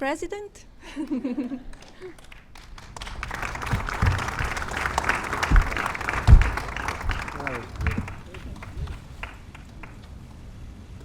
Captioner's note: laughter and applause